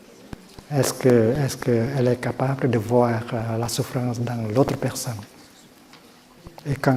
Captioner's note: french